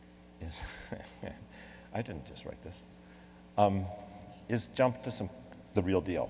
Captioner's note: laughs